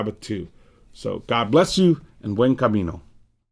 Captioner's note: speaks in Spanish